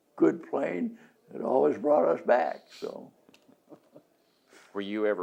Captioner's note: laughs